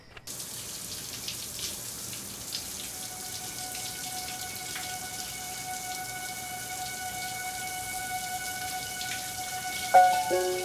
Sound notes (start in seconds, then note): 1.1 shower water running; 6.1 suspenseful music